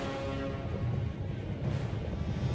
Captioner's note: rumbling